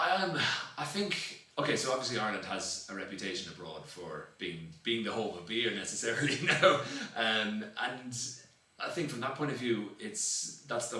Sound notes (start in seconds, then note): 6.2 laughs